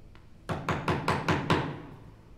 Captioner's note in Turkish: Çekiç sesi